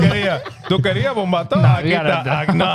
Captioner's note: speaking In Foreign Language